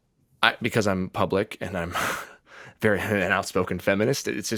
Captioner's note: none